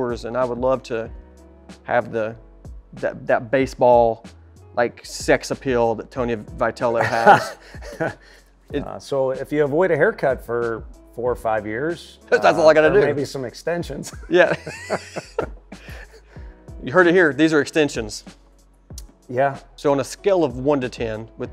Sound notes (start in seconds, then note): 7.0 laughing; 14.1 both laughing